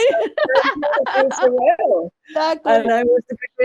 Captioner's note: both laugh